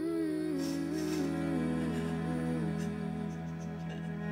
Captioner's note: Keely sobs